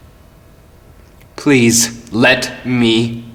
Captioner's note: none